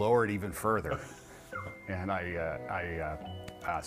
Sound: laughing

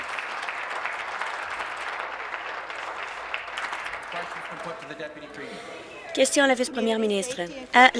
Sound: applause

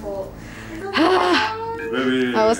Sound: heavy Sigh

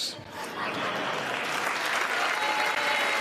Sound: applause

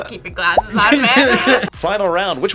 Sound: both laugh

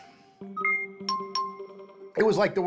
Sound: beeping

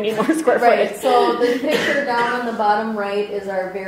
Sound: voiceover

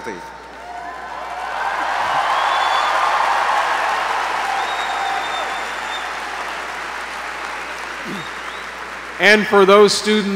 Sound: applause

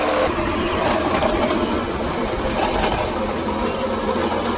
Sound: machine whirring

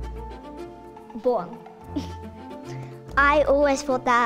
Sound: laughs

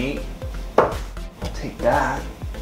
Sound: dart hitting board; dart hitting board

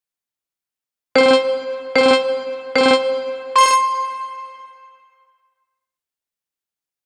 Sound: sound of countdown

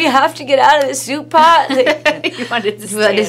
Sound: laughs

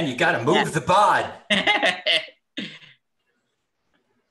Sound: laughs

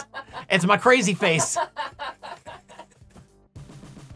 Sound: laughing

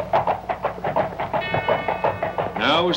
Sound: bell ringing

